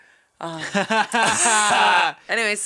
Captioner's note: laughing